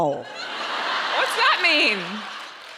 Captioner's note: audience laughing